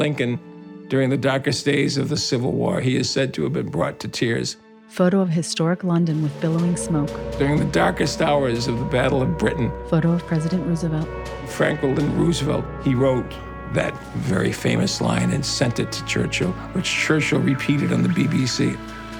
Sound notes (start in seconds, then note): 5.2 air raid sirens wailing